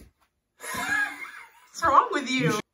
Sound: laughter

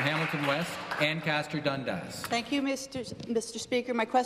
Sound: applause

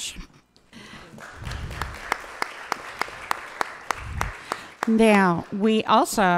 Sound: audience applauding

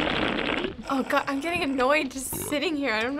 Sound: loud slurping; pranker belches

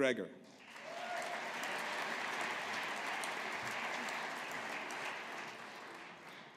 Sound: audience applauding

